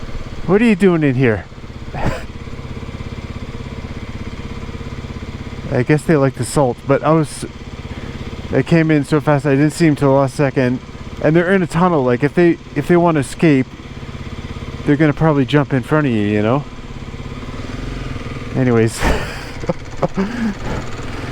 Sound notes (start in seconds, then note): 1.9 laughs; 18.9 laughs